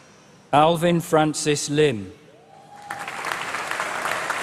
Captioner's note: applause